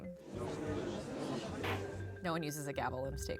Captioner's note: crowd murmuring